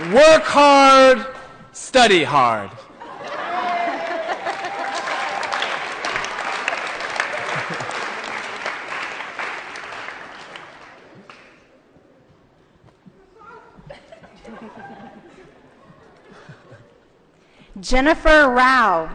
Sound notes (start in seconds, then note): 3.0 applause & Laughter